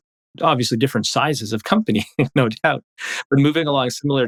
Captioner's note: laughs